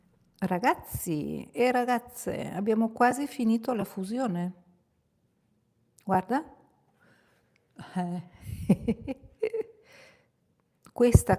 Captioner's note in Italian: risate